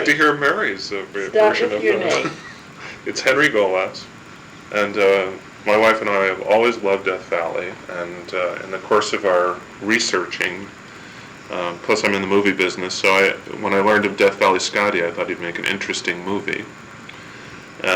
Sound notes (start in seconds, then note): 1.0 laugh